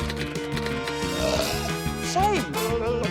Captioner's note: burps; blubbers